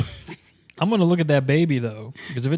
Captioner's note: laughs